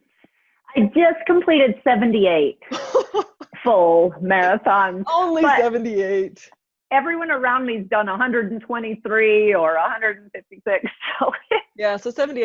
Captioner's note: laughing